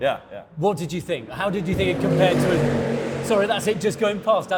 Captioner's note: engine roars past